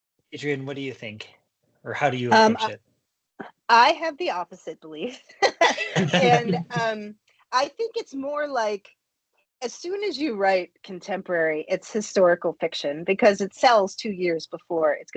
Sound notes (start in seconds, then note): 5.4 chuckling